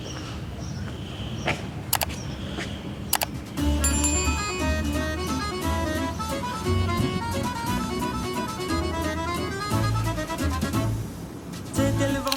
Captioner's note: click